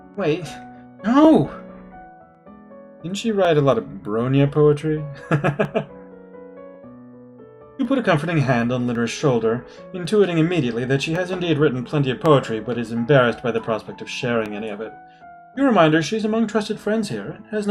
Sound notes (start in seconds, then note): 5.1 chuckles